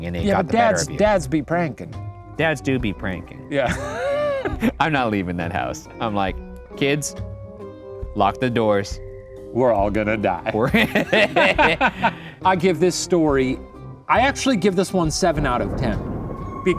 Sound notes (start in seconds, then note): 3.6 laughs; 10.6 men laughing